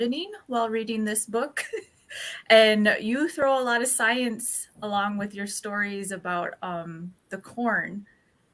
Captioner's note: laughs